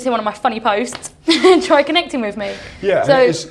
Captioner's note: laughs